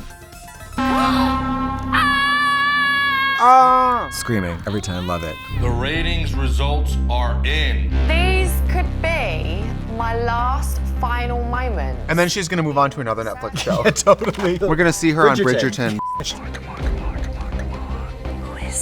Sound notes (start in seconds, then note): 0.1 upbeat music; 0.9 gasps; 1.8 screams; 15.9 beep